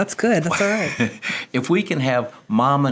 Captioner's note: laughs